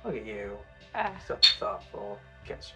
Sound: bottles clink

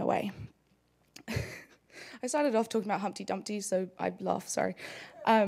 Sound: laugh

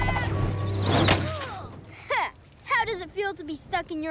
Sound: groans

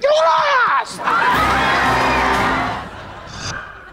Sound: cheering

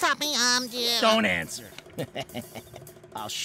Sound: laughing

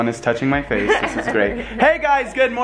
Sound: laughing

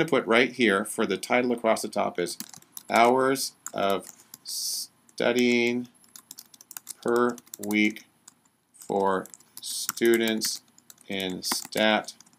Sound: typing

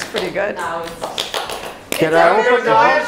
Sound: clapping

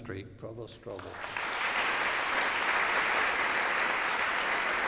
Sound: applause

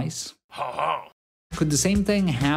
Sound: man laughing

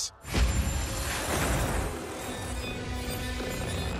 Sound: magical humming

